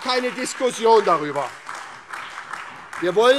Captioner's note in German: Beifall SPD, AfD und Freie Demokraten